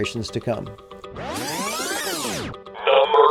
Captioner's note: tape rewinding